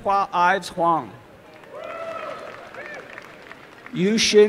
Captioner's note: applause and cheering